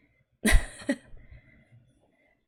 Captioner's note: laughs